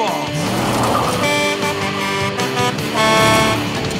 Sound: truck horn honking

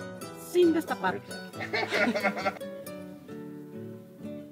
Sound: group laughing

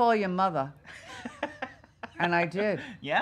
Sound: laughing

